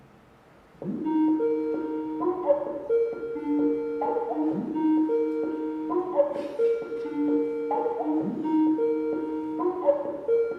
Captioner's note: Skype calling